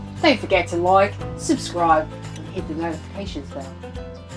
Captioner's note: aussie accent